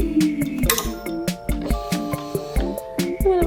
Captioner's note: ring bangs